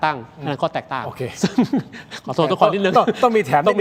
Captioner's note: laughter